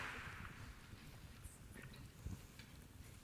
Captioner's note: applause